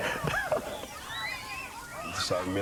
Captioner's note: kids screaming